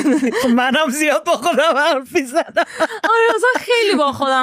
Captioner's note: laughs